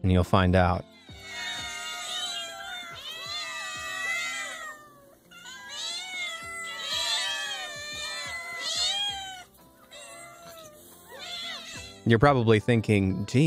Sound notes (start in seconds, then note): 1.1 cats meowing